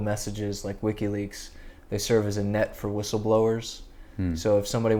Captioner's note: hmm